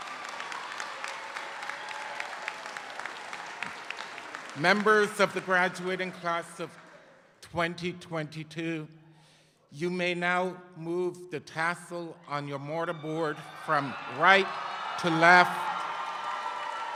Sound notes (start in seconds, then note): 0.0 cheers; 0.0 applause